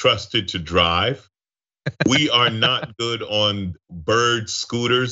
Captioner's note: laugh